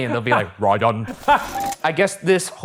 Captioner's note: laughing